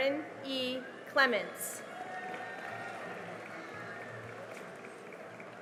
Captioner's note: cheering and applause